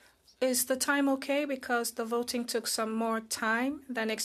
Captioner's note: speaking French